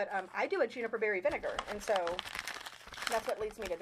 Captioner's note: paper rustling and crackling